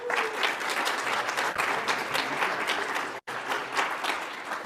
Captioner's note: audience applauds